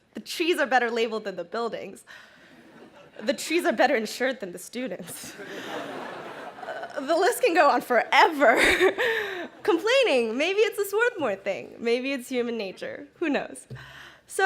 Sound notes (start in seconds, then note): 5.1 crowd laughing; 9.1 laughs